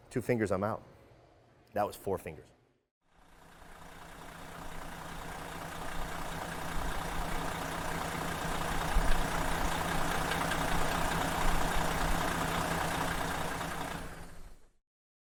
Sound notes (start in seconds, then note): 3.8 bus engine revving